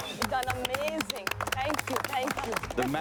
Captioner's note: crew clapping